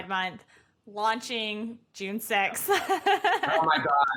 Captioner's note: laughs